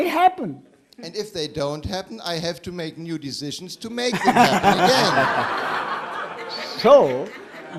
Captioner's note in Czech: smích